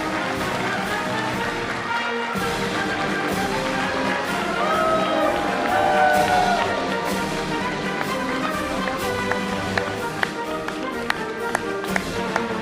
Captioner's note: applause